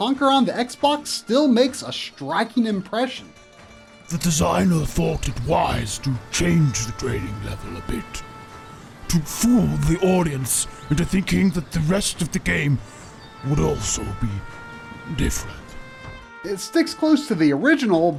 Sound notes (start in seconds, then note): 12.7 game audio